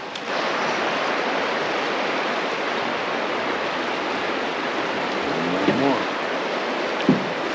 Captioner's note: water flowing